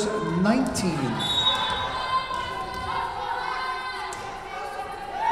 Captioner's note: whistle blowing